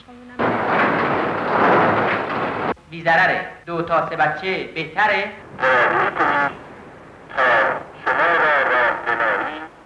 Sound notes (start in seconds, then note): 0.4 printer thrashing; 3.0 announcer speaking Farsi